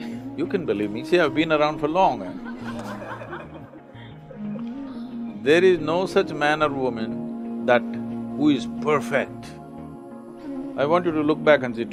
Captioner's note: laughter